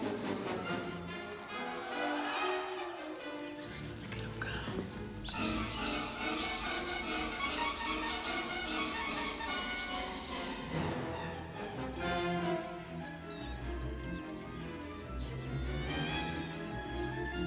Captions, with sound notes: [ Whispering ] LOOK AT 'EM GO !